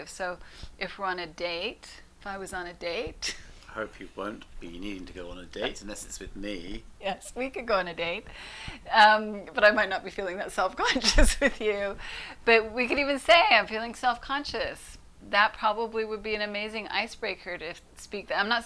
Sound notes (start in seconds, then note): 3.1 laughs